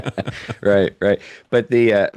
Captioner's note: both Laughing